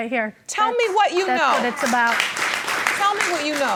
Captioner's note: audience applauding